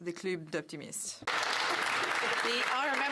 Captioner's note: speaking French